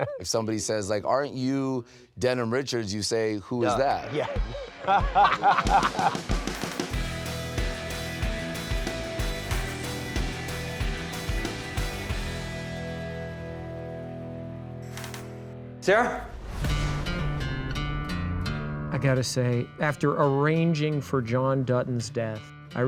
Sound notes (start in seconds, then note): 0.0 laughs; 3.6 men laughing; 7.3 upbeat rock music; 16.6 moody country music